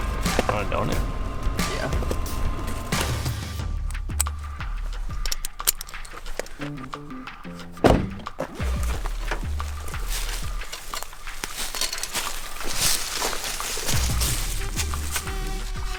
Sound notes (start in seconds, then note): 4.1 buckle clicks; 7.6 car door shuts; 9.3 leaves rustling